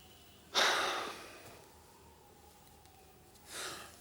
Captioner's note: Graham sighs